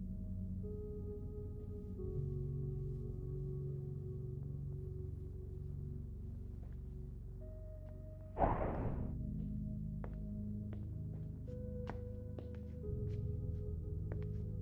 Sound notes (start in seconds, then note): 0.0 gentle melodic music; 8.4 object thudding; 9.2 gentle melodic music